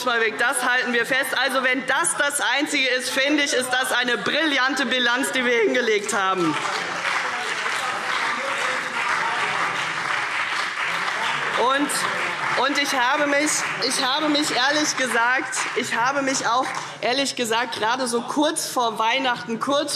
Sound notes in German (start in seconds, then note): 6.0 Beifall CDU und BÜNDNIS 90/DIE GRÜNEN - Zurufe SPD